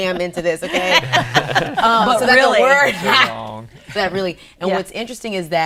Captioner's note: all laughing